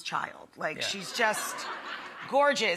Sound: audience laughter

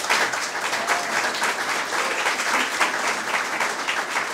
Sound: audience applause

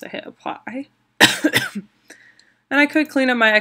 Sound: coughing

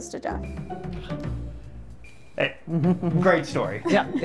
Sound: sighing

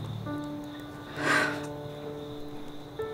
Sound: exhales

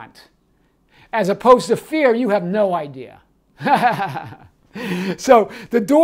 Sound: chuckles

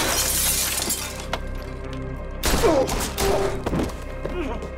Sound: gun fires

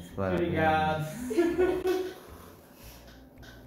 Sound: happiness laughter

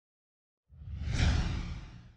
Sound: sound effect

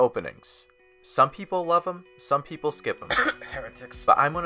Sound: cough

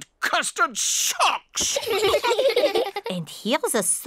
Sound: all laugh

